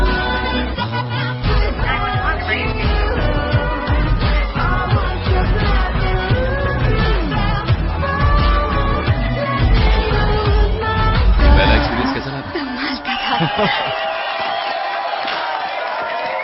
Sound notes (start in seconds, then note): 11.4 crowd cheering